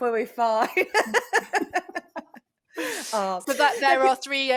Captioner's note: chuckles